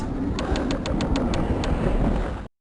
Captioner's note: click